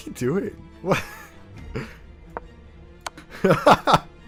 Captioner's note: laughing